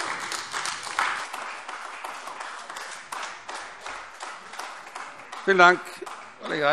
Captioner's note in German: Beifall AfD